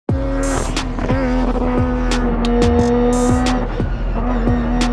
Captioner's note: engine roars